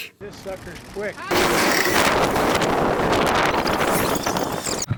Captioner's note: wind blowing